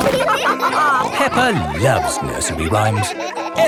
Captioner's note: all laughing